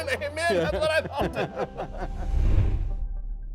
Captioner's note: laughing